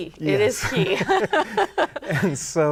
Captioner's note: laughing